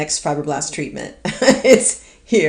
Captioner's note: laughs